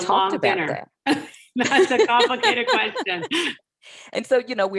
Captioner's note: laughing